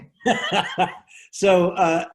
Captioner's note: laughs